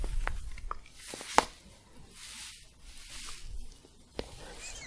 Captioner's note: crinkling and staticky shuffling